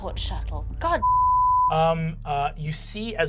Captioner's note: beep